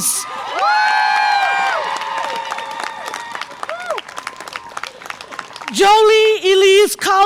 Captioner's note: audience applause and cheer